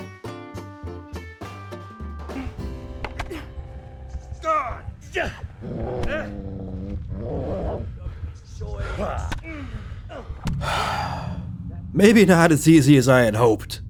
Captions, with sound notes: [Sigh] Maybe not as easy as I had hoped.